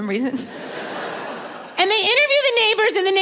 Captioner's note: audience laughing